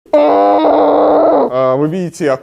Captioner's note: sounds of a frantic despair